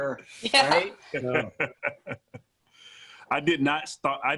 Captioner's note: laughs